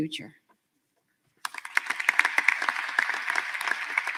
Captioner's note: applause